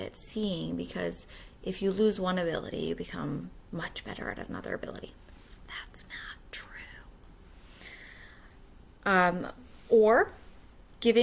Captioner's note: whispers